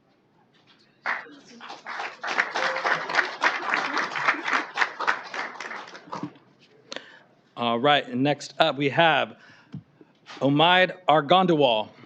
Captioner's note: applause